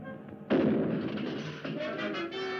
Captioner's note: gunshot